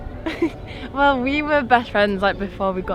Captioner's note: gentle piano music; laughs